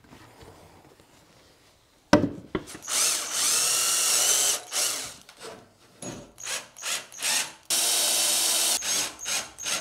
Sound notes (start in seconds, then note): 2.2 wood clicks; 2.8 drill whirring